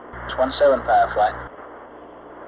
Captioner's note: mission Control Audio